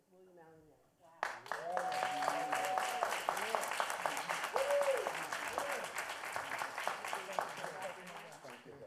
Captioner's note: applause